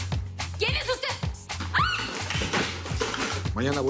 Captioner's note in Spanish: Grito